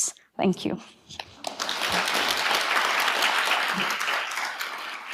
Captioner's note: audience applauding